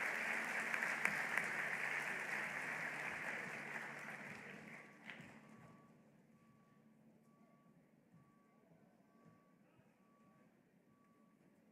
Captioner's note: applause